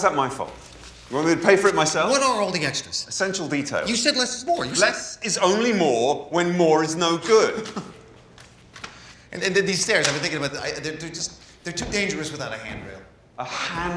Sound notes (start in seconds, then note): 7.2 scoffs